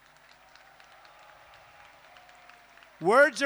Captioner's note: applause